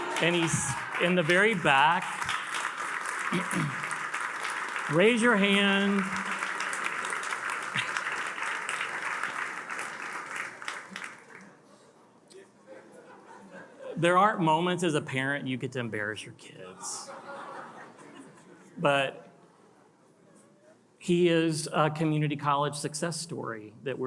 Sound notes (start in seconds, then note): 0.0 attendees cheering and applauding; 2.2 attendees applauding; 12.4 attendees chattering; 17.0 attendees laugh